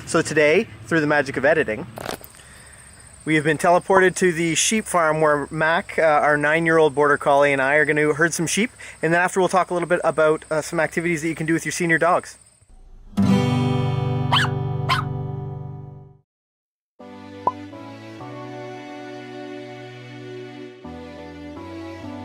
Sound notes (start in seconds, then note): 14.3 dog barking; 17.7 dramatic music